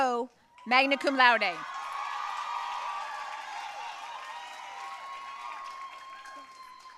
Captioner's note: audience cheering and applauding